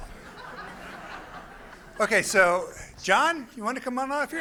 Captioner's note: laughter